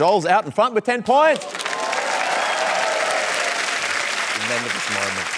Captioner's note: cheering and applause